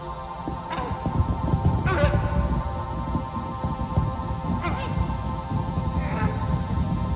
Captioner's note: screaming in pain